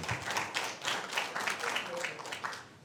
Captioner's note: applause